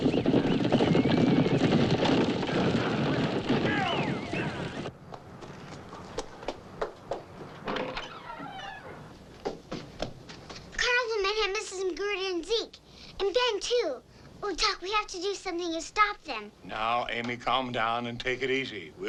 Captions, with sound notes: (feet clomping) (door creaks) - The carnival men have Mrs. Macgruder and Zeke. And Ben, too. Oh Doc, we have to do something to stop them. - Now, Amy, calm down and take it easy.